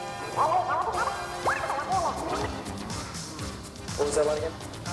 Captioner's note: video rewinding